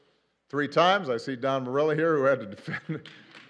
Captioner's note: laughs